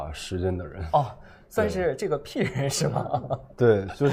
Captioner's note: laughs